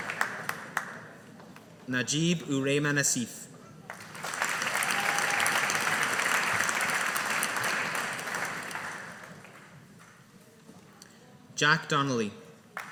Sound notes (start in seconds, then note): 3.9 audience applauding